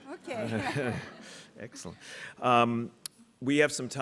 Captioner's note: audience laughing